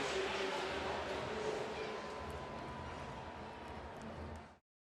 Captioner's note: pa announcement